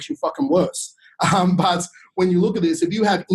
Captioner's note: chuckles